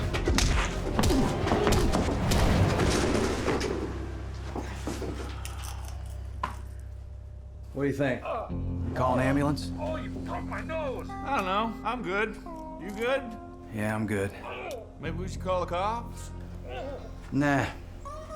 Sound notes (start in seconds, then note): 0.2 punching; 8.0 man groaning; 14.8 man groaning